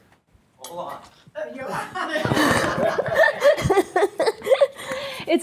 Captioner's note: laughs